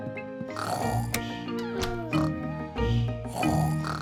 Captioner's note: both snoring